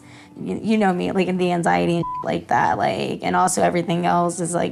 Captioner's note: beep